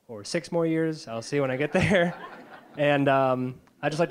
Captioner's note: audience laughing